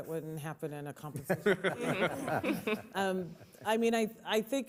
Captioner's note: laughter